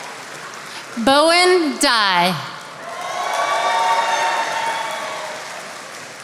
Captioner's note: attendees applauding